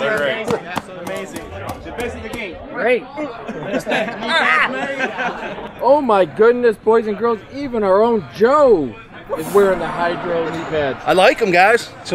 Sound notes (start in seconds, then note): 3.2 laughing